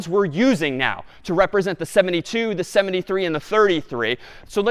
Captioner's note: none